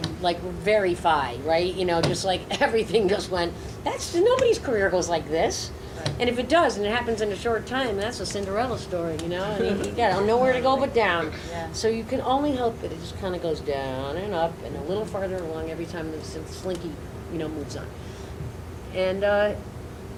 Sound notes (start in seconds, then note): 9.5 audience laughs